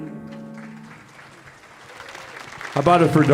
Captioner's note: audience applauding